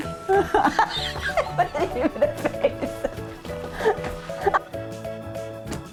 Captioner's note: laughing